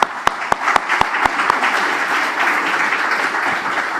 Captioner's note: applause